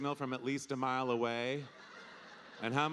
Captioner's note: audience laughing